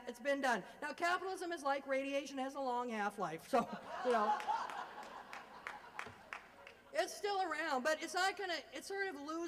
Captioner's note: laugher